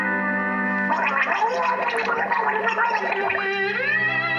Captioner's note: gurgling